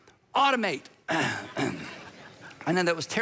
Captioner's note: audience laughs